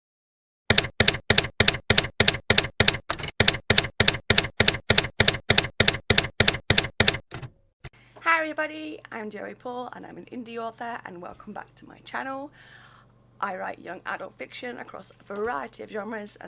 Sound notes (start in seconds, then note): 0.7 typewriter keys clacking